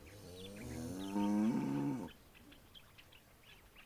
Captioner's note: cow mooing